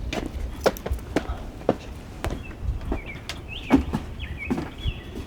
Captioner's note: footsteps on stairs